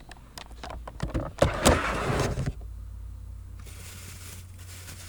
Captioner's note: door grinding